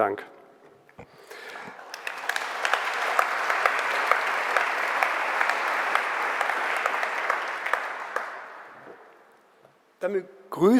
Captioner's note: general applause